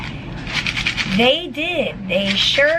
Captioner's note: pills rattling